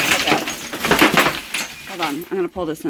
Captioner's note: crash